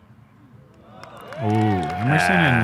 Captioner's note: silence; applause